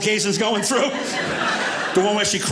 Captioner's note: audience laughing